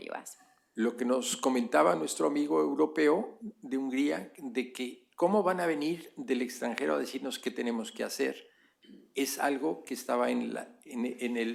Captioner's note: speaking spanish